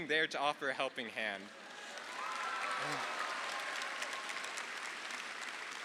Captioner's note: audience applauding